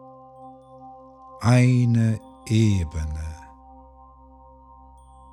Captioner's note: german